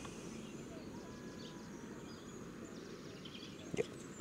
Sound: wind blowing

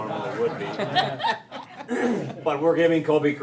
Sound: all laughing

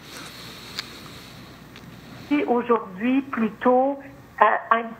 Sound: speaking French

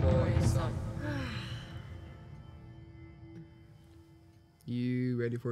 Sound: Makayla sighs

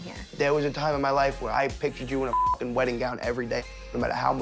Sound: beep

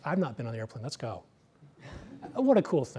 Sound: laughter

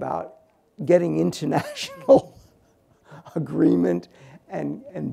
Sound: laughs

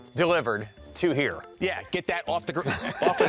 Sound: laughs

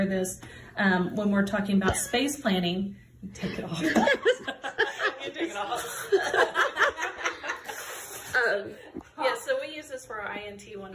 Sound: laughing

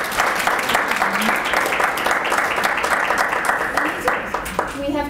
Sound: applause

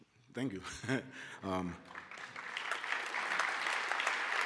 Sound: applause

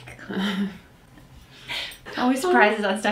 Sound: laughs

